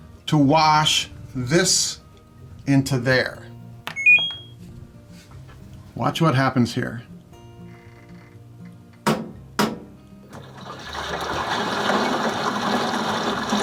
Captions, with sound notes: to wash this into there. (washing machine tone) Watch what happens here. (washing machine knocks) (water gushing)